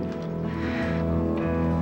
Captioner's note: sighing